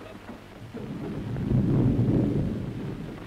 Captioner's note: thunderstorm Rumble